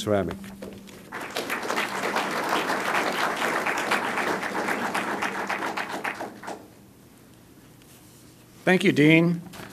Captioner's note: applause